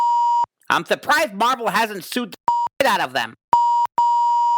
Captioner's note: beep; beep